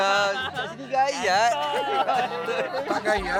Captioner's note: laugh